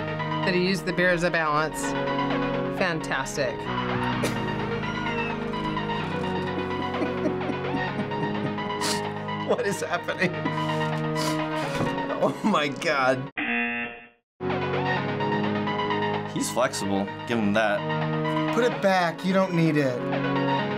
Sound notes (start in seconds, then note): 6.4 wheezing laughter; 13.4 buzzer